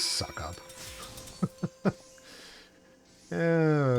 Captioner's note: laughs